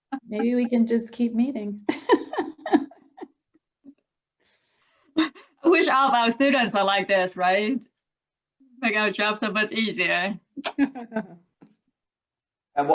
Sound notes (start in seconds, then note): 0.1 laughs; 1.9 laughs; 10.6 laughs